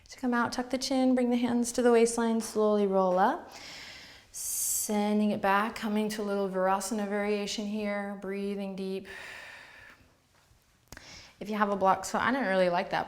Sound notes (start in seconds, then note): 9.1 exhales